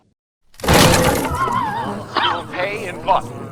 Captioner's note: smash; explosion